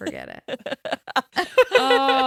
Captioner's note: everyone laughs